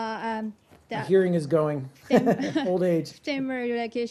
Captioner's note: laughter